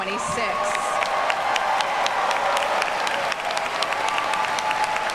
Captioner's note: audience cheers and applauds